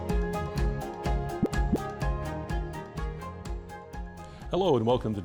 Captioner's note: graphic pops